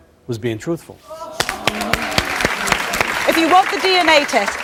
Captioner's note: audience applauds